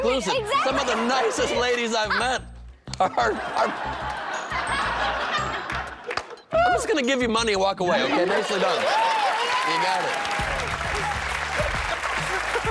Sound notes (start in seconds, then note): 7.8 laughter